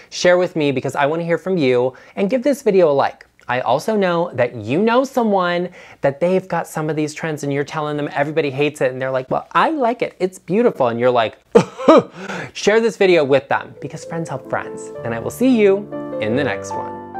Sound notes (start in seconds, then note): 11.5 coughs; 17.0 light classical music